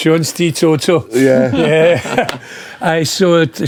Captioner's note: laughing